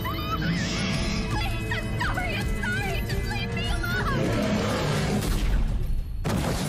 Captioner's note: screaming